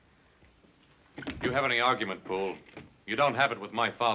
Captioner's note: doors open